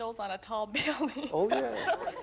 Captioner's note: laughs